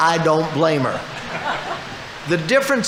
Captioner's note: audience laughing